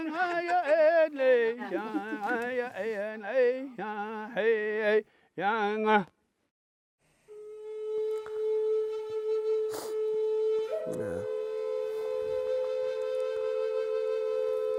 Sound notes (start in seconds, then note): 0.0 laughter; 5.2 chanting ends; 7.2 flute music